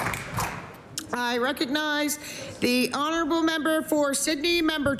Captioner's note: applause